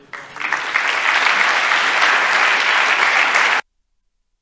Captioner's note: applause